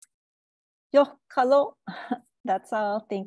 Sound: speaking indigenous language

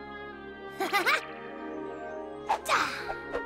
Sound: chuckles

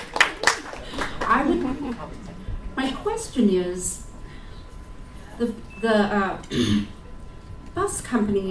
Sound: applause; clears throat

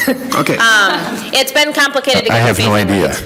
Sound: people chuckle

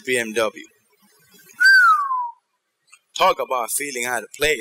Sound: whistle

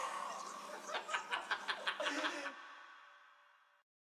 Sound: infectious laughter

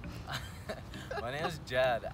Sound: laughs

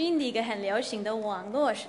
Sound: translates in Mandarin

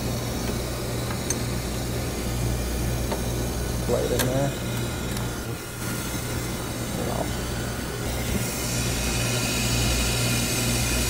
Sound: machine noise

